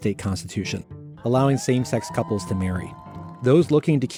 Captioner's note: guests cheering